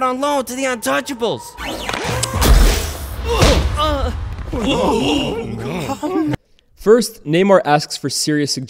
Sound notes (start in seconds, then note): 4.4 gasping